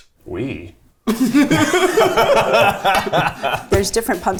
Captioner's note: all laughing